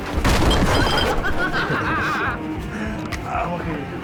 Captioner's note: laughing